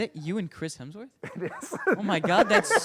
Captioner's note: laughs